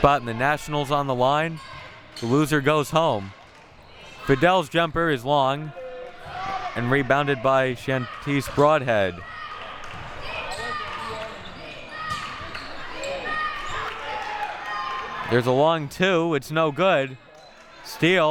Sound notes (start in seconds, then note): 11.5 clapping